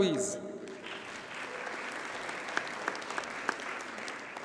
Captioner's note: audience applauds